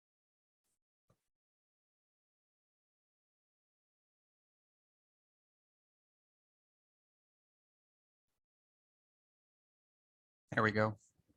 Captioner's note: pause